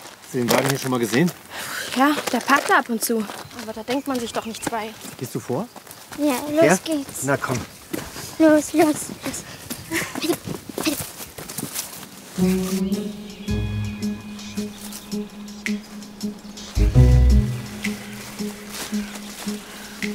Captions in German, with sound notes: Hast du den Wagen hier schon mal gesehen? Ja, der parkt da ab und zu. Aber da denkt man sich doch nichts bei. Gehst du vor? - Ja, los geht's. Na, kommt. - Los, los. (Freudige Laute) (Vorsichtige Musik)